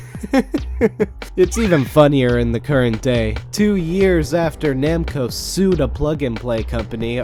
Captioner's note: laughs